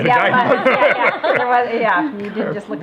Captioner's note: laughs